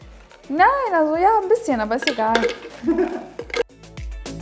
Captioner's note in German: lacht